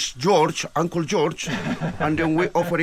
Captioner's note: chuckle